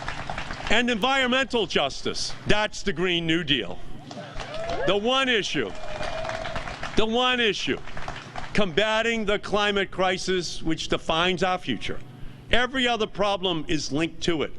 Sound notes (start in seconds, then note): 0.0 applause